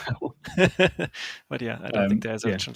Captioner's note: laughing